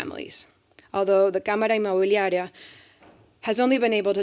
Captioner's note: speaking spanish